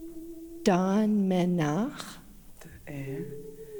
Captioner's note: In Mi’kmaq